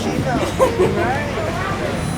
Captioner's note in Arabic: ضحك أكثر